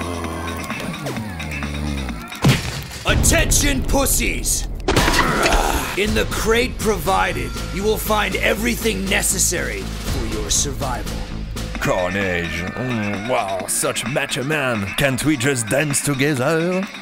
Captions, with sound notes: (Groaning) (Snoring) Attention p******! In the crate provided You will find everything necessary For your survival Karnage... hmmm Such macho man Can't we just dance together?